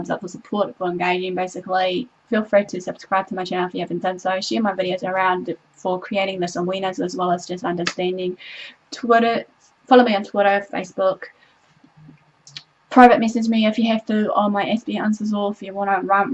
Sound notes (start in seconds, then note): 12.4 tongue clicking